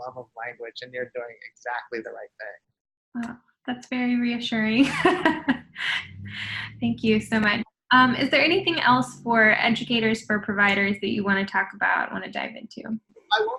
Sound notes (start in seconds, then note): 4.8 laughs